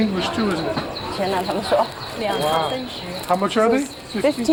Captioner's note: non-english speech